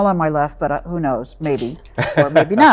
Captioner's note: laughs